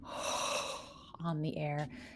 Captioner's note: breathes deeply